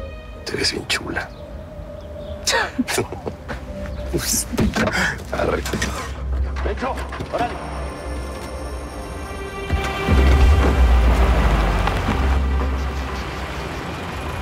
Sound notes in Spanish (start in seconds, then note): 2.6 Risas; 6.6 Sonido al arrancar el motor